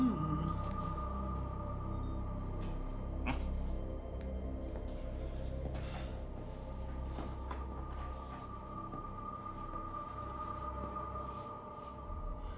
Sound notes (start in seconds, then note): 3.2 grunts